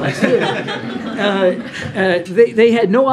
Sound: laughter

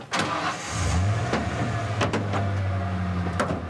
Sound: engine starting

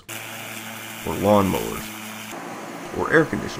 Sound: lawnmowers

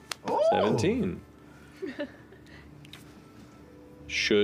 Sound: oohs again; quietly laughs

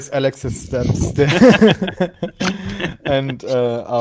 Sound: laugh

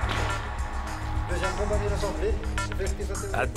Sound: French spoken audio

